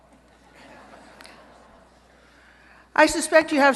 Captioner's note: laughter